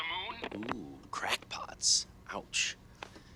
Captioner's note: line disconnects